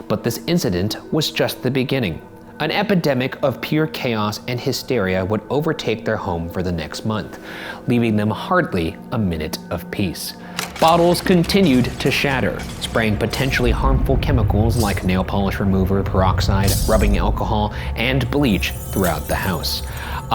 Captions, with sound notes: But this incident was just the beginning. An epidemic of pure chaos and hysteria would overtake their home for the next month, leaving them hardly a minute of peace. (projector clicking) Bottles continued to shatter, spraying potentially harmful chemicals, (glass shattering) like nail polish remover, peroxide, rubbing alcohol, and bleach throughout the house.